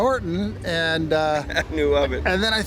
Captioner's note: chuckling